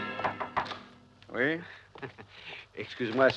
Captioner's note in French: touchant a la porte